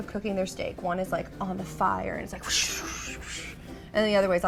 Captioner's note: fire noises